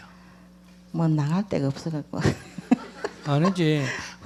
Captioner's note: questioner Laughter